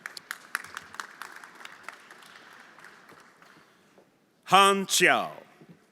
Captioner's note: everyone applauding